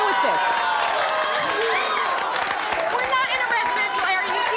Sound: audience cheering

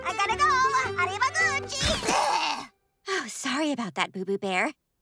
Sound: gagging

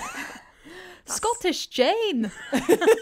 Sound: laughter

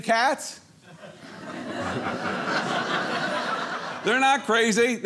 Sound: audience laughing

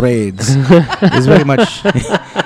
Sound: laugh

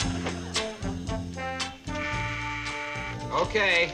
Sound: doorbell buzzing

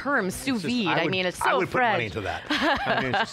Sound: laughs

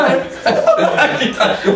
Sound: laughs

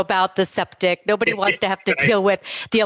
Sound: laughs

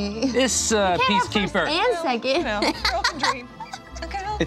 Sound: laughs

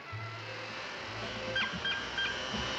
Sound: horn honking

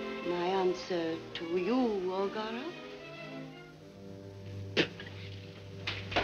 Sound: spitting

